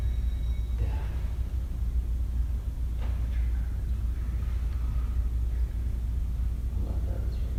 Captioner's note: whispering